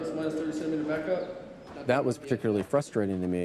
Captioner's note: faintly speaking